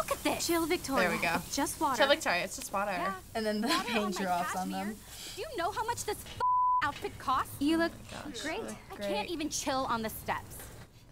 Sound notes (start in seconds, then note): 2.1 mocking